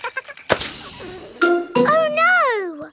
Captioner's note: laughing; tire hisses